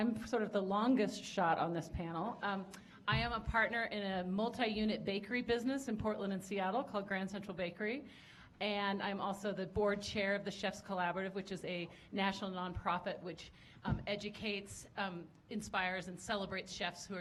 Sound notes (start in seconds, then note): none